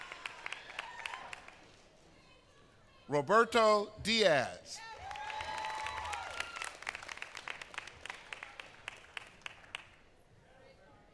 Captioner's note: applause